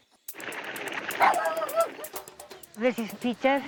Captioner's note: barking